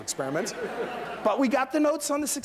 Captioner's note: laughter